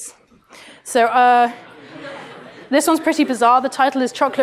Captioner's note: laughter